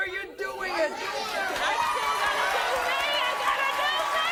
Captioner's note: audience applauding and cheering